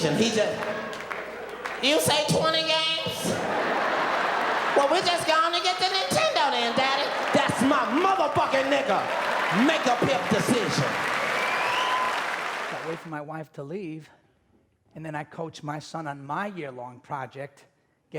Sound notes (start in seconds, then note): 3.5 audience laughing; 11.2 audience clapping